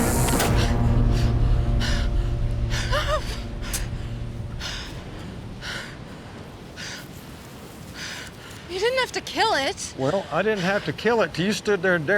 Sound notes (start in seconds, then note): 0.6 Rebecca panting